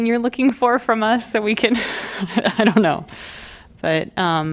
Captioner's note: laughter